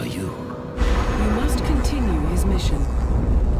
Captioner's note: mechanical voice